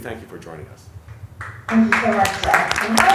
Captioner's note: applause